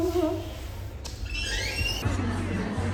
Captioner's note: door opens